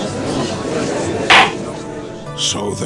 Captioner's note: gallery chattering; gavel slams!